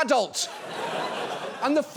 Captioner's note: audience laughs